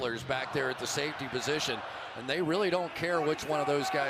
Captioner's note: cheering